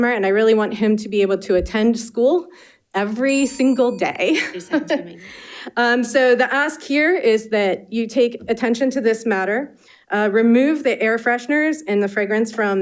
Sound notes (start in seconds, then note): 3.2 bell dinging